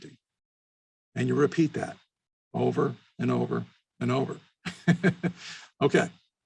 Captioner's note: chuckles